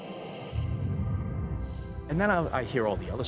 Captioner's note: Bigfoot snarling